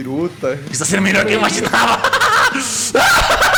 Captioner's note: laughs